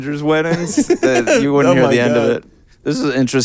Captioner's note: laughing